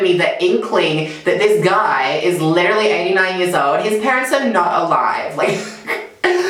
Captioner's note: laughs